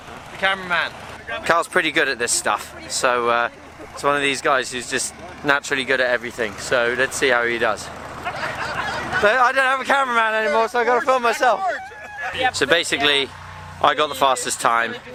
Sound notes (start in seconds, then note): 8.0 raucous Laughter